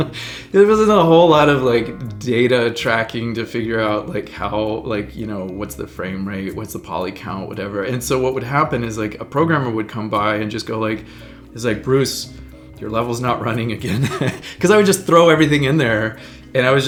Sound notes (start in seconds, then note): 13.8 laughing